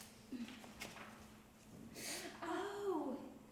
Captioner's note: winces